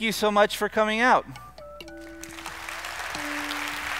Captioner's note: applause